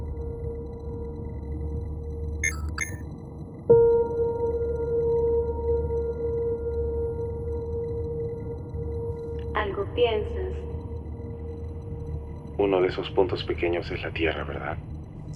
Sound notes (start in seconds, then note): 2.5 clicking sounds